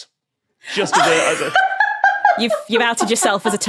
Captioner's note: laughs uproariously